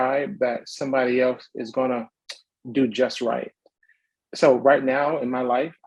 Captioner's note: smacks lips